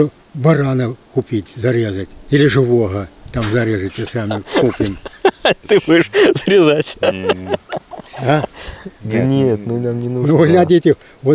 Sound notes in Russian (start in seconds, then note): 7.9 смех